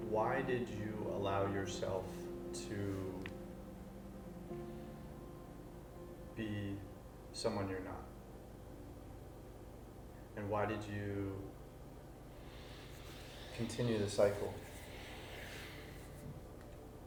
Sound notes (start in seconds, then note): 12.7 exhales